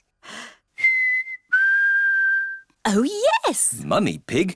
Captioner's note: whistles